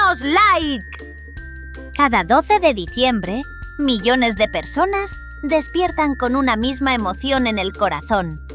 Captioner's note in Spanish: Voz en off